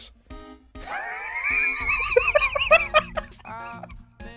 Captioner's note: hysterical laughter